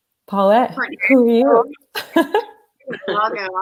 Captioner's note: laughter